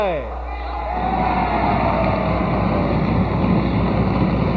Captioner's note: audience cheers; applause